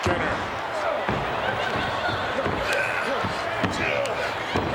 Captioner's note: crowd murmuring